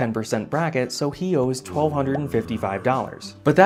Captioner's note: zombie groan